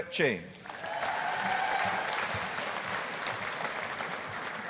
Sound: audience applauding

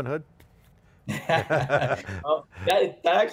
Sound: both laughing

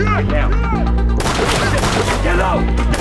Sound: gunshots

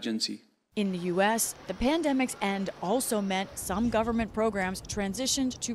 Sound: voice-over

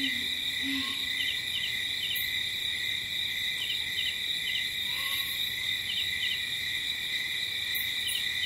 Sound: light jungle ambience

